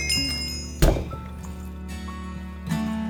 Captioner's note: thud...!